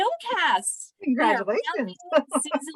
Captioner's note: laughter